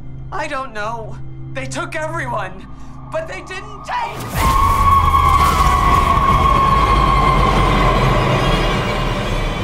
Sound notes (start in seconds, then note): 4.0 screaming